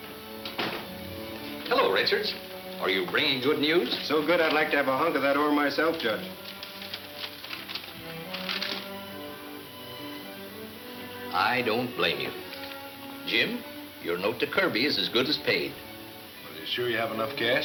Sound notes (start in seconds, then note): 5.1 paper rustling